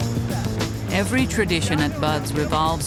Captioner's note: voiceover